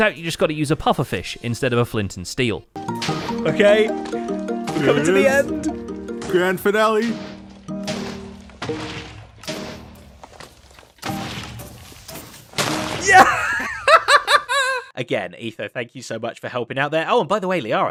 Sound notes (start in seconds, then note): 7.6 music and explosions continue; 13.1 excited laughter